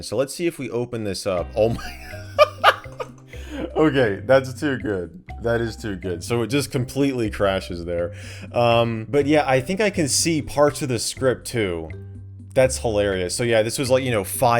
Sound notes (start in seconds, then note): 1.7 laughing